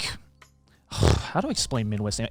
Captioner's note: burps